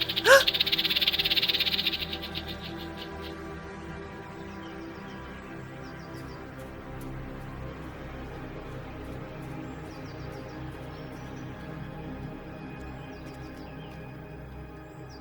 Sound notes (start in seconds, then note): 0.0 snake rattles; 0.2 Tiffany gasps; 7.0 birds chirping